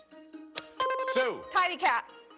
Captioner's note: buzzer rings